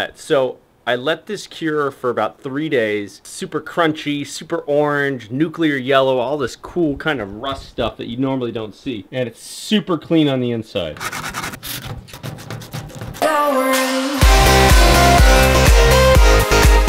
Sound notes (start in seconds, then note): 12.4 sandpaper scrapes; 13.2 bright music